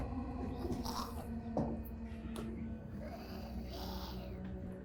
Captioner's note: creature growling